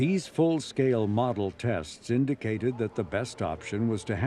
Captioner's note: faintly speaking